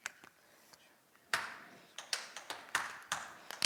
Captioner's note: tapping